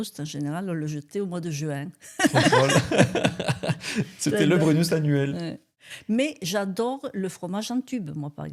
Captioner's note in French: rires